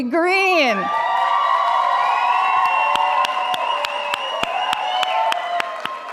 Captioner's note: audience cheering and applauding